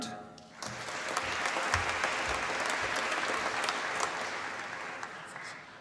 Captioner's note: applause